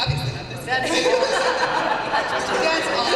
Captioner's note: laughter